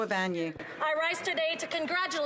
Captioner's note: some Applause